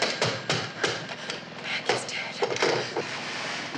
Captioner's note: whispering